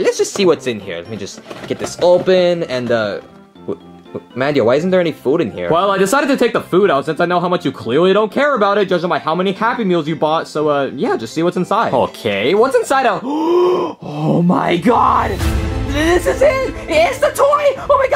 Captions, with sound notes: All right, let's just see what's in here. Let me just get this open and... Mario, why isn't there any food in here? - Well, I decided to take the food out since I know how much you clearly don't care about it. Judging by how many Happy Meals you bought. So yeah, just see what's inside. - Okay, what's inside of... (gasps) Oh my God. (dramatic music) This is it. It's the toy.